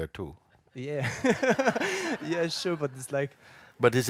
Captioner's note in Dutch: lacht